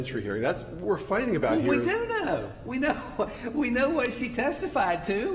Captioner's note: laughter